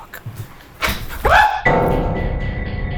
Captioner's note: item clicking; screaming; dark tense music